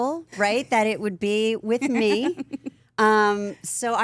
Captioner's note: AJ laughing